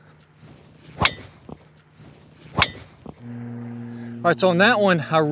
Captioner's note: golf ball cracks